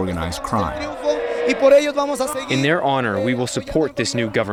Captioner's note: through translator